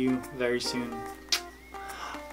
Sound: kiss

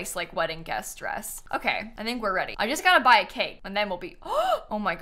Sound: gasps

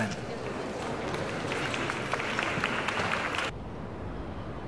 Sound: audience clapping

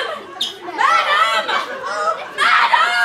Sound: sisters chatting

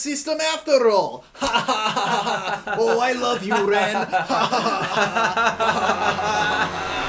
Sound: laughing

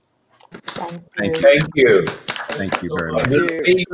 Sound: members clap

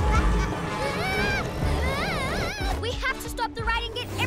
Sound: screaming

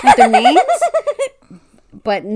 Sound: laughs

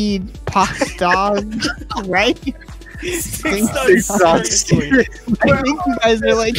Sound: Scorpy laughing

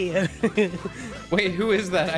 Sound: laughs

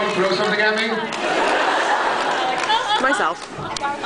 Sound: laughs

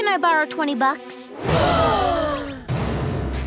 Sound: gasping

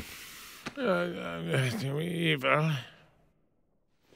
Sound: Doofenshmirtz murmurs "evil" in his sleep

